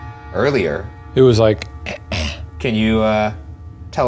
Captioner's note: clears throat